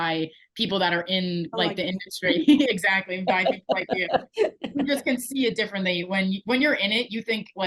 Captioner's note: laughing